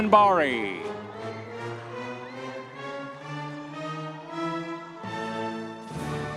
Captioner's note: audience members cheering